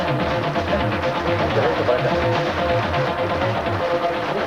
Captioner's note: speaking in Spanish